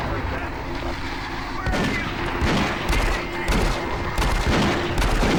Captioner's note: gunshots